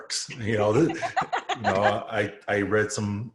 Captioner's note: both laugh